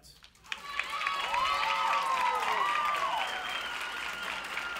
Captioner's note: clapping